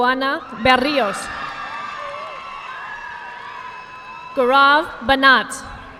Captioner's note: audience clapping